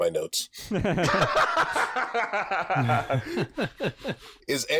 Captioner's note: laughs are had all around